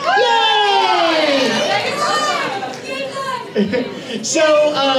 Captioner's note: audience cheers